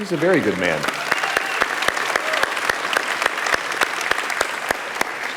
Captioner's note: audience applauding